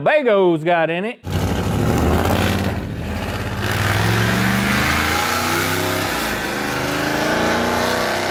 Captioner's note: engine Noises